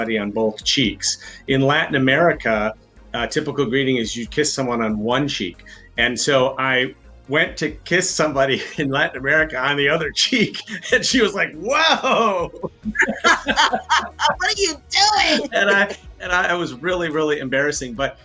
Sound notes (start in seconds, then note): 11.8 laughs